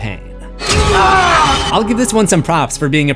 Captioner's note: screams